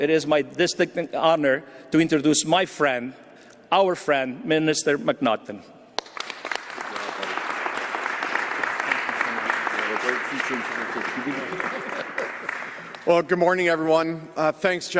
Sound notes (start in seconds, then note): 5.9 applause